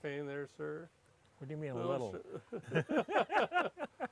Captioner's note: laughs